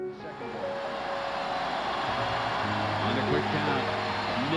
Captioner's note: crowd cheering